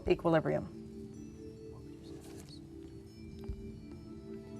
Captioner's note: whispering